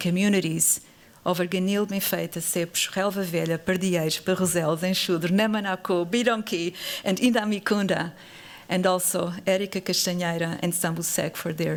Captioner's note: non-english speech